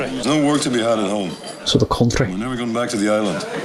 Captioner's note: imitates Irish Accent